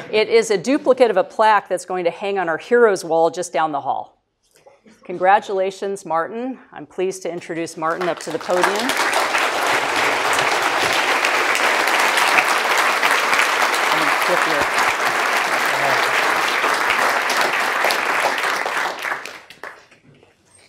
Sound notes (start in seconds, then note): 7.8 applause